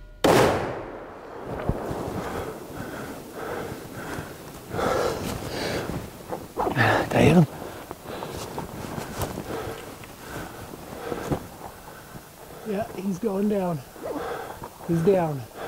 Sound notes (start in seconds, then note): 0.2 gunshot; 1.8 heavy Breathing Continues